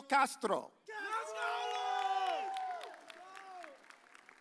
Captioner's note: audience cheers